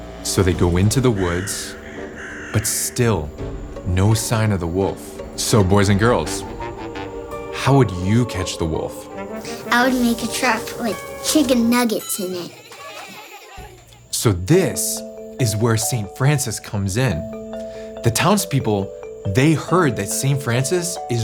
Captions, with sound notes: So they go into the woods, but still no sign of the wolf. So boys and girls, how would you catch the wolf? - I would make a trap like chicken nuggets in it. (kids laughing) - So this is where St. Francis comes in. The townspeople, they heard that St. Francis